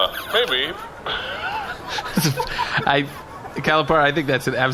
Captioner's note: laughing